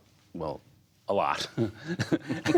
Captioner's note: laughter